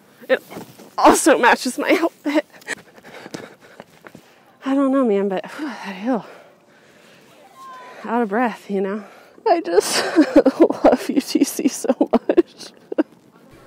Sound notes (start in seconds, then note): 2.2 more heavy breathing and sobbing